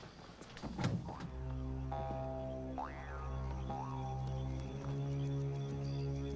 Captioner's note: tense plunky music; crickets chirping